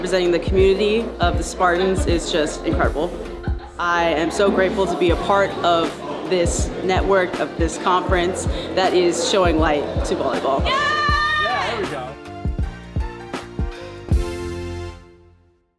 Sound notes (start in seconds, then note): 10.6 screaming